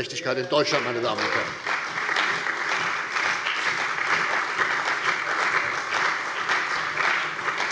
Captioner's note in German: Beifall bei der CDU und dem BÜNDNIS 90/DIE GRÜNEN